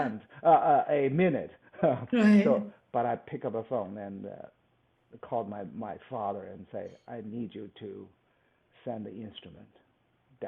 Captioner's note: laughs